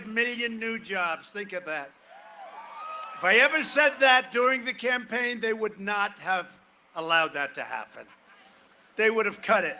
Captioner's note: cheering and applause